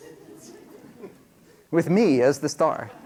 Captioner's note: laughter